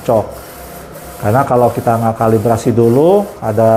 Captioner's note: printer machine noise